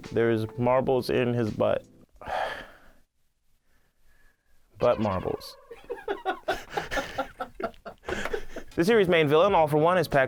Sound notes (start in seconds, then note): 2.2 sighs; 5.5 laughs